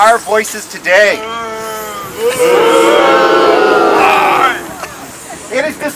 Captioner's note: crowd